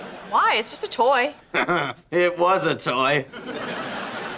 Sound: laughing

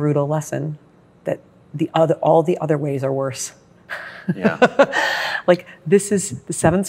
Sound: laughs

